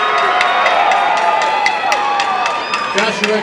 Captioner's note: applause and cheering